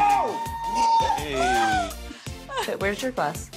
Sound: champagne cork pops; screams, laughs; yells

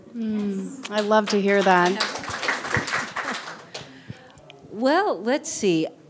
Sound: people applauding

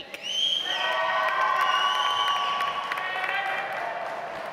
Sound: audience applauds

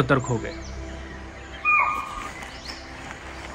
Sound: chital Deer Alarm Call

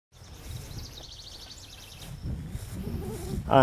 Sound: birds chirping

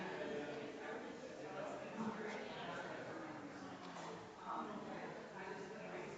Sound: people chattering distantly continues

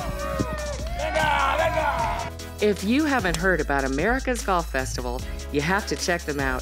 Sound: all cheering

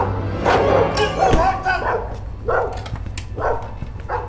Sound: dog barking

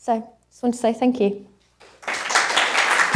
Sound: applause

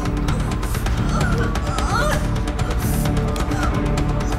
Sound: straining

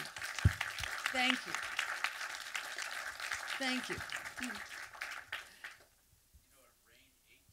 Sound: applause; over applause

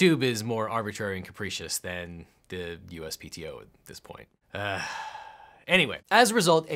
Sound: grunts

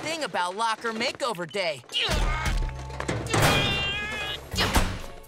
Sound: grunting

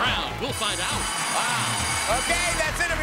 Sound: bell rings

